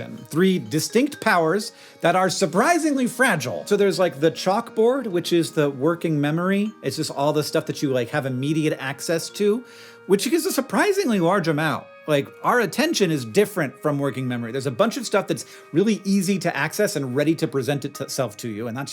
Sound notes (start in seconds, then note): none